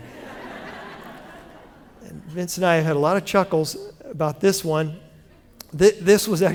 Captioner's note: laughter